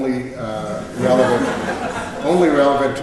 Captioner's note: laughter